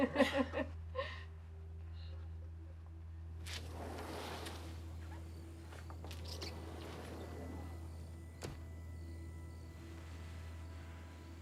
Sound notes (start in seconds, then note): 0.0 Lucy laughs; 3.4 door sliding; 7.7 crickets chirping